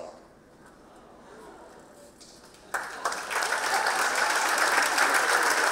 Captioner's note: audience chattering and clapping